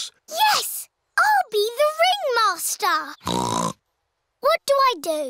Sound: snorts

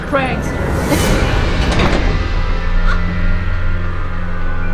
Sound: prison cell door slams shut

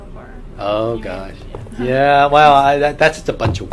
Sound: laughs

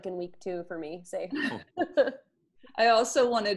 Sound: laughs

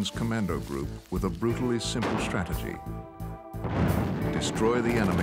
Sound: explosion

